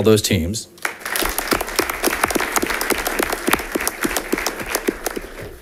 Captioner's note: audience applauding